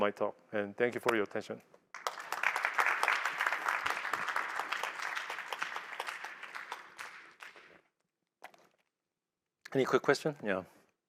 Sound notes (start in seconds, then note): 1.9 applause